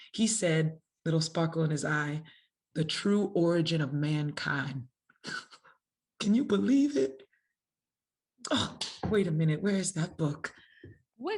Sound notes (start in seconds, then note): 5.5 laughs